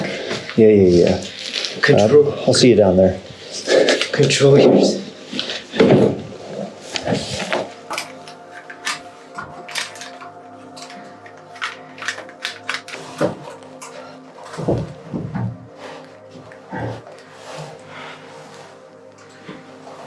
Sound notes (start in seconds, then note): 9.4 equipment jangling; 17.0 heavy breathing